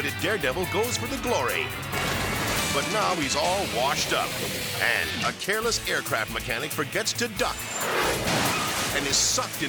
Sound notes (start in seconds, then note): 2.1 water splashes; 7.9 engine explodes